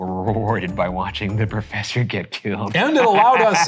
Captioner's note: laughs